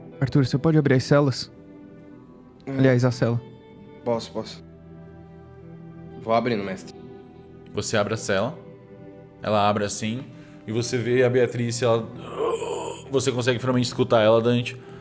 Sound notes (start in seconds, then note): 12.2 whimpering